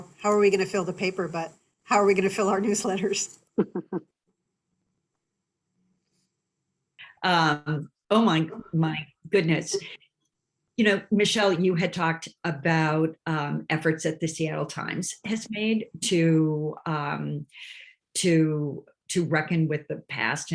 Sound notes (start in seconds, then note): 3.5 laughing